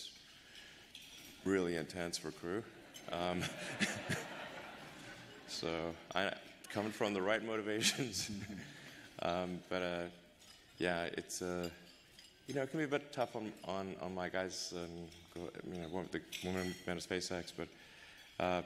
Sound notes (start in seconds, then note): 7.8 laughter